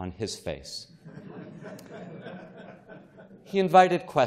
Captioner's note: chuckling